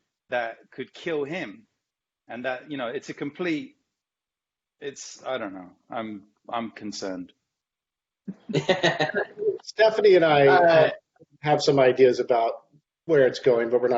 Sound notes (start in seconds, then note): 8.4 laughs